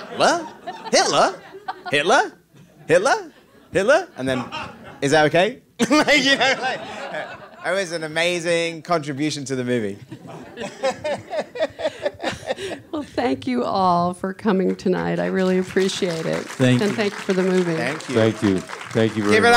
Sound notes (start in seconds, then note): 5.8 all laughing; 10.1 laughs; 15.2 audience applauding